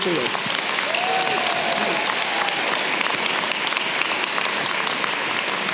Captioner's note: audience clapping and cheering